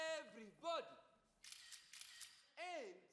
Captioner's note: camera clicks